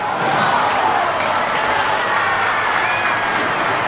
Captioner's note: audience cheering